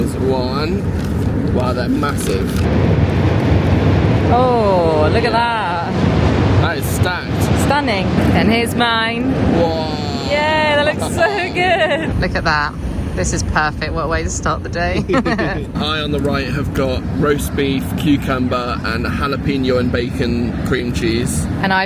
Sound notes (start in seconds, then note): 9.6 laughs; 15.0 both chuckles